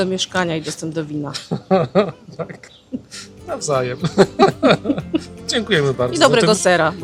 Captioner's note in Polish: śmiech